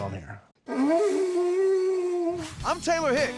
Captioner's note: blowing